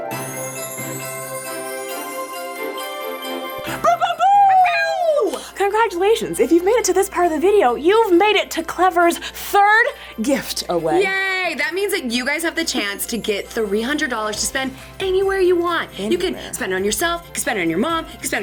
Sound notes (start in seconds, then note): 0.1 upbeat holiday music; 3.9 girls exclaim